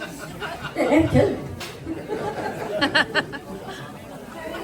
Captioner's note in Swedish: skratt